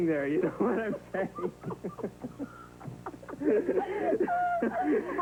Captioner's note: Josh & Reva both laugh